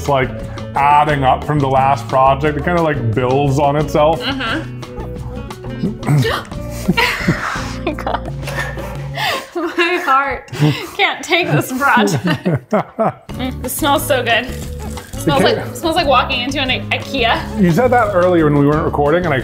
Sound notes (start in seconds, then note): 5.7 gasps; 11.4 laughs